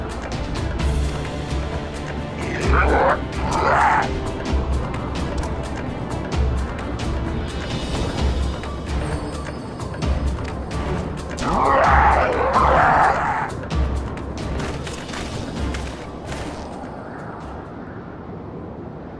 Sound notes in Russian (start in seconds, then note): 2.4 вскрикивает; 2.4 кровожадно смеется